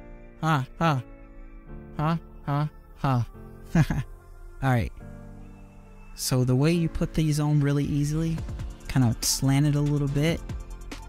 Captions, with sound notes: Ha ha. Ha ha ha. (Chuckle) All right. So the way you put these on really easily kind of slanted a little bit.